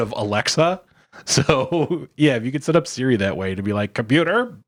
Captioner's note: laughs